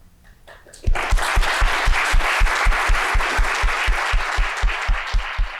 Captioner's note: audience clapping